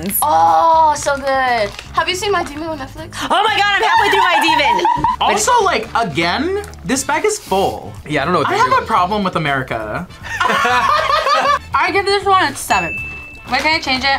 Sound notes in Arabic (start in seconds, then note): 10.2 كلاهما يضحك